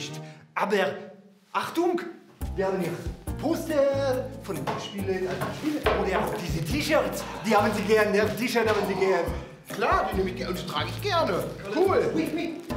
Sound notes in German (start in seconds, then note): 7.1 Seufzen